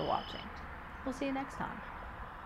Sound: nature sounds continue

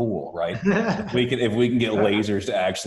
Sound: laughing

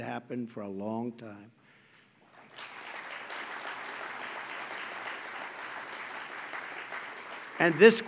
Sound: applause

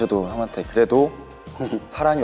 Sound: big laughter

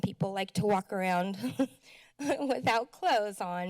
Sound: chuckles

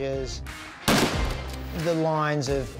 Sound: gunshot

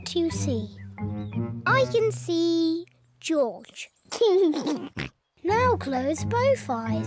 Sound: laughs

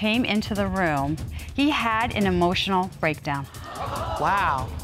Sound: audience gasps

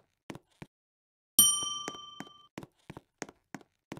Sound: bell rings

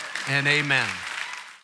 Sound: congregation cheering and applauding

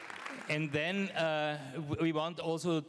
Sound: applause

